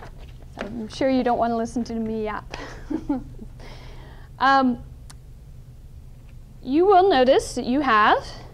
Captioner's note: chuckle